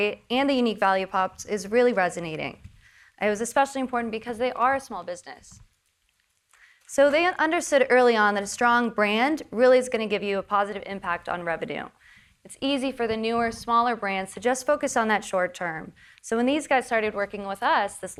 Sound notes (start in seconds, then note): none